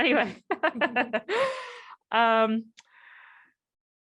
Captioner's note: laughs